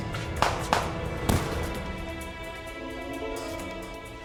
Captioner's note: dramatic music; guns firing; dramatic music